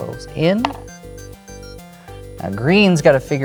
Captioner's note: game piece clatters